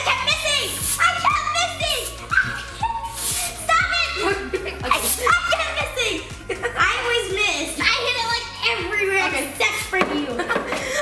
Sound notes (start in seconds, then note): 2.3 screams